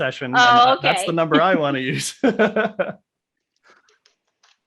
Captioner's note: laughs